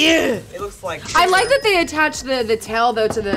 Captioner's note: grunts; register ringing